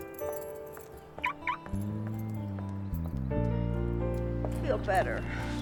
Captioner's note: alarm chirping